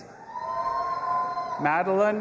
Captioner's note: audience applauding and cheering